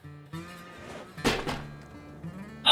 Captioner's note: lid sliding off crate; thud